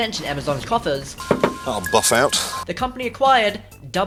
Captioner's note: knock